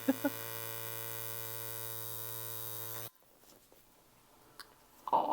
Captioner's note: laughs; machine buzzing